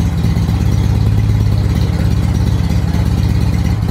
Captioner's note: engine returns to previous idle